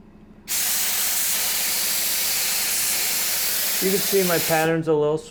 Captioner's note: loud spraying